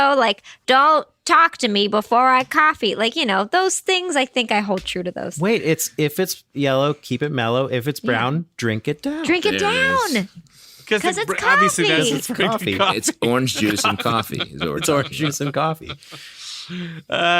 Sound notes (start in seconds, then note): 9.2 happily